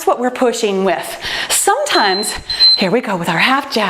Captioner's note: timer beeps